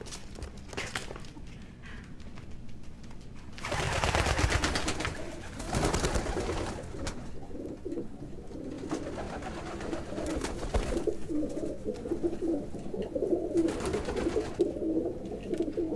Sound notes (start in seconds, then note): 3.5 wings fluttering, cooing